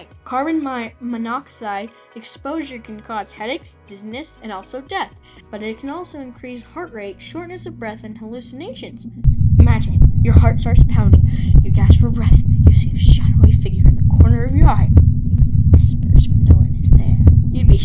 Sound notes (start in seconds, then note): 8.9 heart Thumping